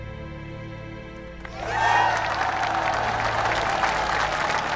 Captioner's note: applause